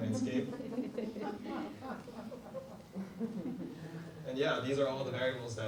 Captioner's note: audience laughs